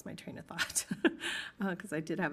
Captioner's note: laughing